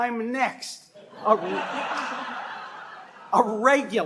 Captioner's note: laughter